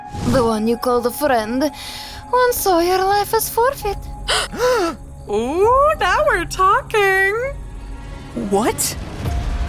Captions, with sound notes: The one you called a "friend"... once saw your life as forfeit. [both gasping] Ooh, now we're talking! What?